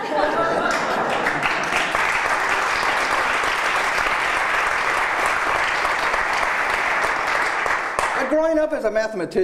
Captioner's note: applause